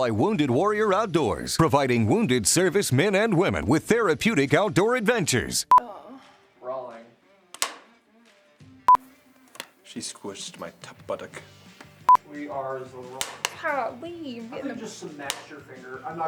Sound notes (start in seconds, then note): 7.5 slate claps